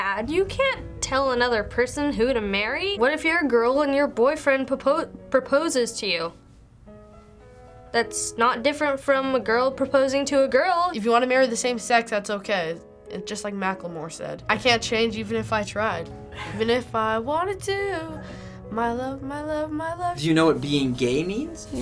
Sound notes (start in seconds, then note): 16.3 laughs